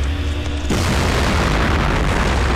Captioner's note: Explosion